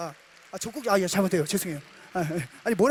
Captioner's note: laughter